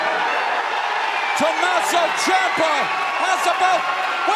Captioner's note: cheers and applause